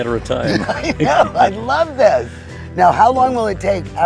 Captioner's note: laughs